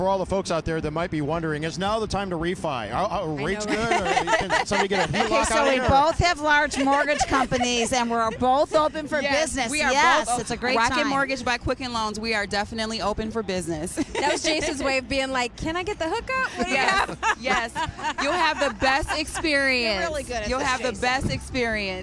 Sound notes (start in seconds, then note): 13.4 laughter